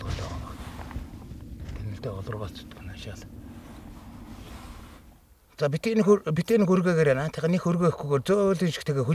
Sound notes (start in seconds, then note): 1.9 foreign language